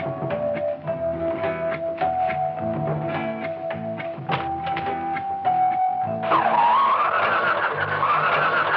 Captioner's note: bell